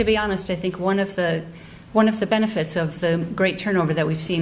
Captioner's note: none